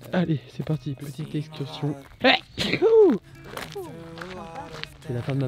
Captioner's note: sneezes